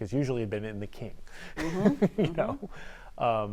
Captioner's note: laughs